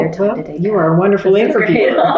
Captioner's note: laughter